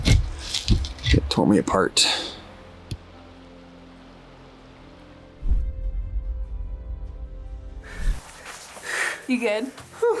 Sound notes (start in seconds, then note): 5.4 graphic whooshes